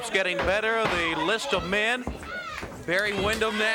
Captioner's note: crowd cheering